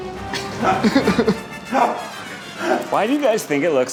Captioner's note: laughing